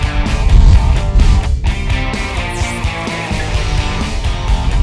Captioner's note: whoosh